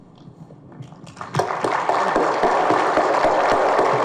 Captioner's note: audience claps